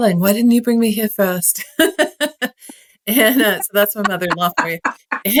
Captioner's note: laugh